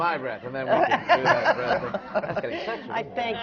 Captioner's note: laughter